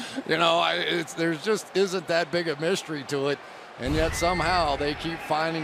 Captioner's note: chuckles